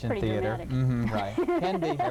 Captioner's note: laughing